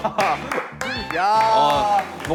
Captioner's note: Tepuk tangan untuk kreasinya